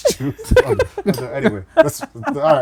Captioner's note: laughing